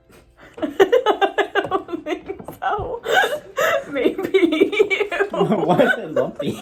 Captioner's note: laughs